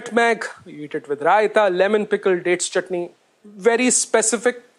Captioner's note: hindi